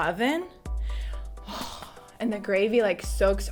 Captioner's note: dramatic sigh